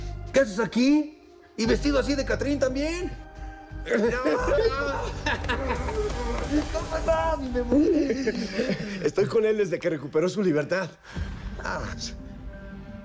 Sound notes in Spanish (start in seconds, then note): 3.5 Exclamaciones; 3.9 Risas